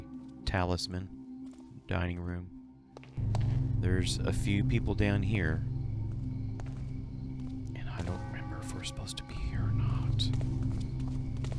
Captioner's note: whispers